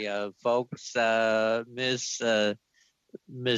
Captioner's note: mixed voices